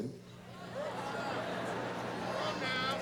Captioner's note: laughter